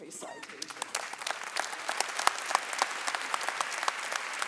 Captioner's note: audience applauding